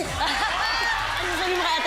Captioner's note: laughter